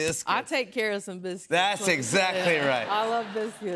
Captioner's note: laughter